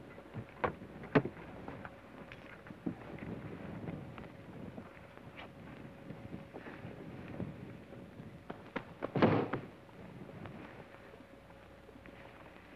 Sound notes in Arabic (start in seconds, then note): 9.2 صوت أقدام